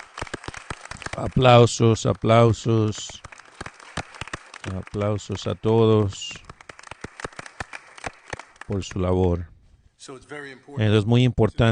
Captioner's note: applause